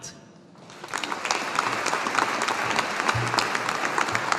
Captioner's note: audience applauding